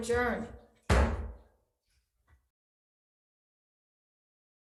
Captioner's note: mullet pounding